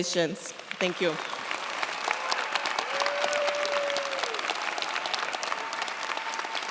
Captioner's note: cheers, applause